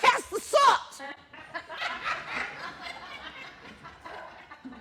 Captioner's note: laughter